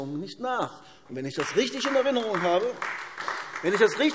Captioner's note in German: Beifall AfD